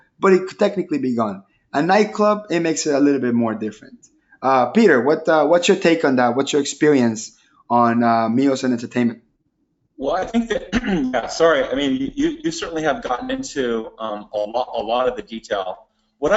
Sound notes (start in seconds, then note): 10.0 clears throat